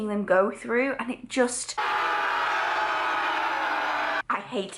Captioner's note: fake screams ensue